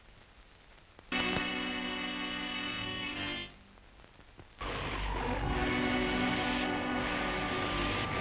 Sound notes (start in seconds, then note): 1.8 machines sparking; 1.8 tense uneasy music